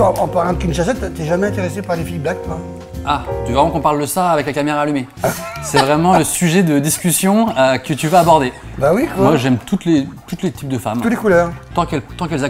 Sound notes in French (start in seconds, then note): 5.4 rires